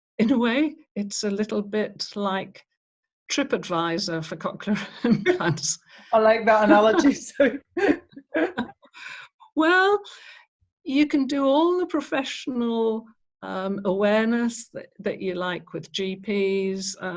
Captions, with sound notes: In a way, it's a little bit like TripAdvisor for cochlear implants (chuckles). - I like that analogy, Sue (laughs). - Well, you can do all the professional awareness that you like with GPs